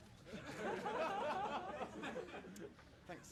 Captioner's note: audience laughing